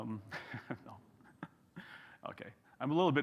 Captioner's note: chuckles